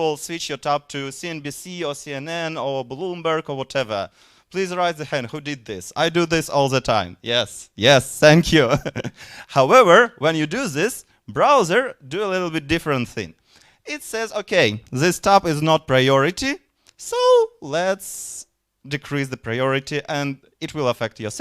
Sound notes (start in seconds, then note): 8.6 chuckling